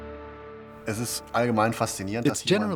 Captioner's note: speaking in German